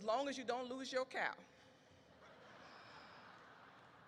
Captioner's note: audience laughs